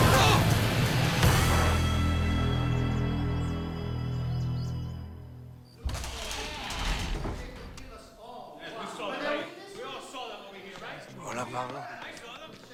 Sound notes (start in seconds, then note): 5.8 door creaks